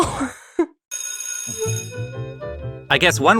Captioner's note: school bell rings